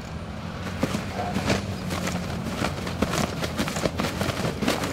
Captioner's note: dog barking; blanket flapping